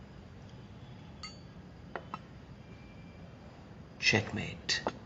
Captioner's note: clinking